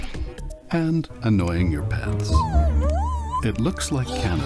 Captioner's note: dog whines